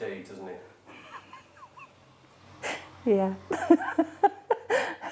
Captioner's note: laughing